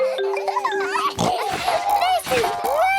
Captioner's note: all laughing; giggles, snorts